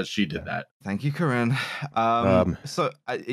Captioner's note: sighs